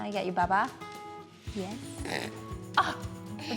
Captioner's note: spits; laughing